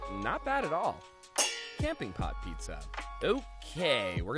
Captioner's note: metal clangs